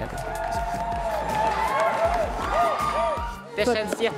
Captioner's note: cheers